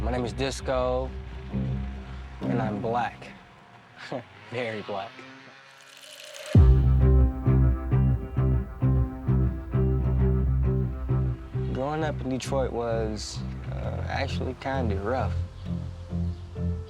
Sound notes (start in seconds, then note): 4.0 chuckles